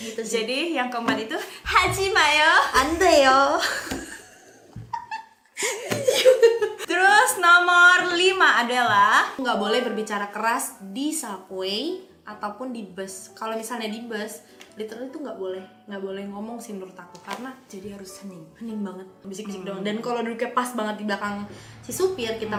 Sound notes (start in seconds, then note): 2.7 laughing